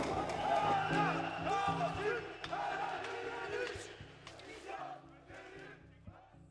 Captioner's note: explosion; protestors yelling